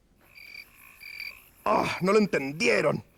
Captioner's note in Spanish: Grillos